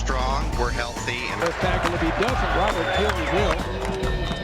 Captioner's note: crowd cheering; upbeat music